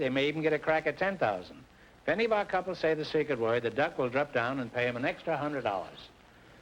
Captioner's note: none